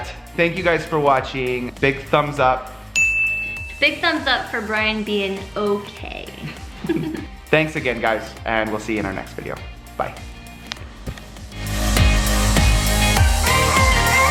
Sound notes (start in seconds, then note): 2.9 ding; 10.6 upbeat music